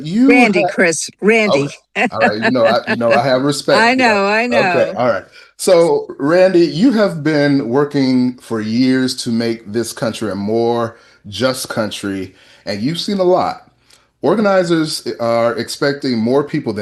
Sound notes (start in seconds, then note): 4.5 laughter